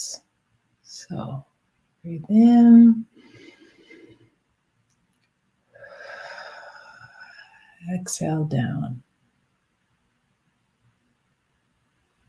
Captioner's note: exhales